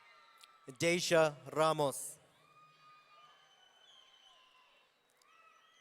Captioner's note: audience cheering